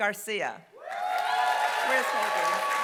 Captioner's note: applause